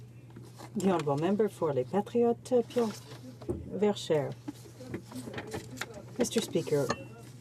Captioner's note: speaking French